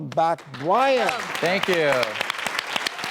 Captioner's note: applause